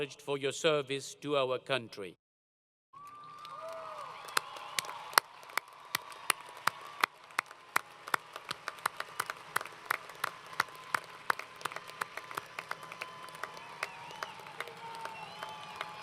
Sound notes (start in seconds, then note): 2.9 applause & Cheering